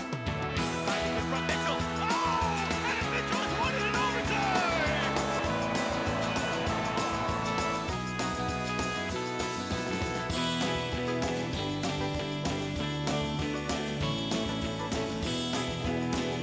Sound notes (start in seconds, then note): 5.4 cheers; 8.5 yelling